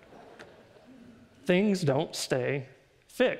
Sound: audience laughs

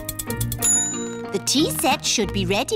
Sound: bell dings

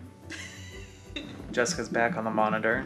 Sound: laughs

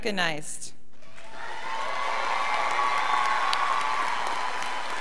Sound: scholars applauding

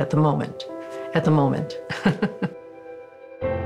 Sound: laughs

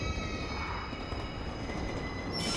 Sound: brakes squealing

